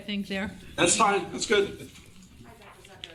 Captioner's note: people murmuring